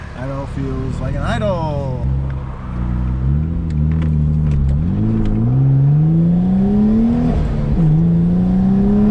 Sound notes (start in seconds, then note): 3.8 car engine revving